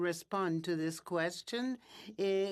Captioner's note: speaking in French